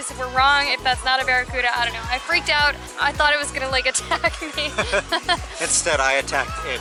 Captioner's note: laughter